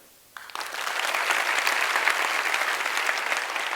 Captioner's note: applause